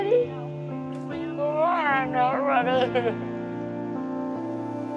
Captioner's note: crying